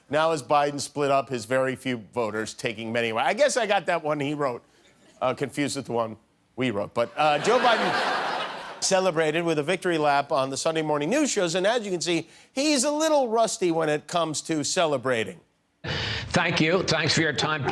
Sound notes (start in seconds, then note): 9.8 laughter